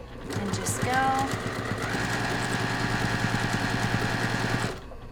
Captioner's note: machine whirring